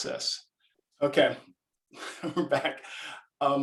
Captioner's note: chuckles